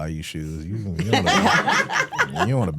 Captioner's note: hosts laughing